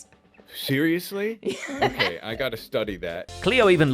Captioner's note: laughs